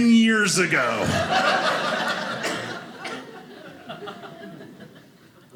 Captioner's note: audience laughing